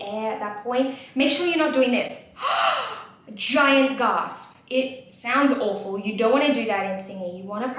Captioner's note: gasps